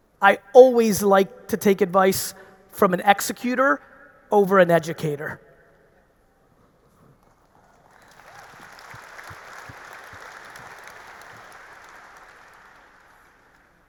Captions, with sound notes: I always like to take advice from an executer over an educator. (audience cheering) (audience applauding)